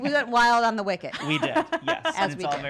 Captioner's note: laughing